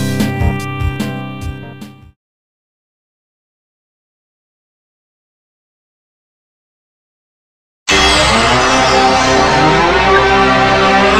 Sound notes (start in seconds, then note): 3.7 silence; 7.9 32-bit console startup music plays